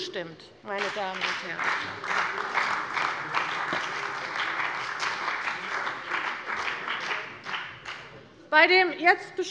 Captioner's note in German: Beifall bei der CDU und dem BÜNDNIS 90/DIE GRÜNEN